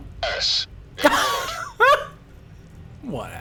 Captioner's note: laughing